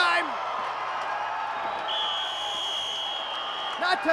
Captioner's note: crowd cheering continues